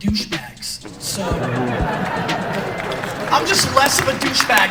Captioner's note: laughter, cheering, applause